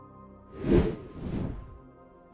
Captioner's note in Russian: Звук перехода